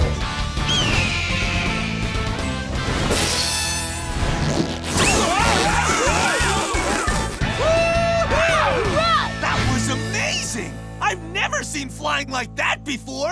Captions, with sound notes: [squawking] [screaming] Whoo hoo! That was amazing. I've never seen flying like that before.